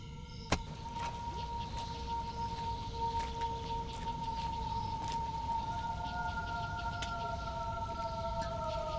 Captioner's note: an animal howl echos in the distance